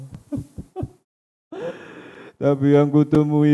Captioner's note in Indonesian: tertawa; terkesiap